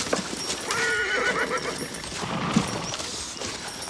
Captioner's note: horse neighs